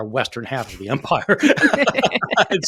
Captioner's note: laughing